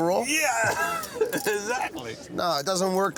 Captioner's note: laughing